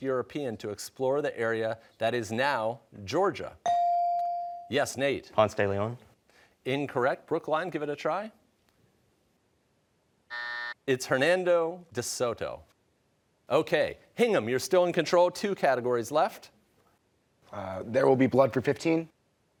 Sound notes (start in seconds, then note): 10.3 buzzer